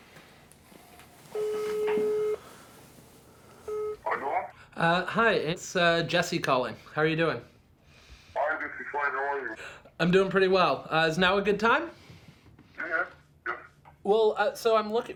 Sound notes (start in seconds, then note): 0.1 woman speaking foreign language, distorted; 7.5 speaking English